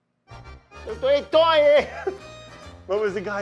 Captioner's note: laughs